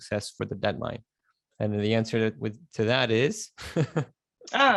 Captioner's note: chuckles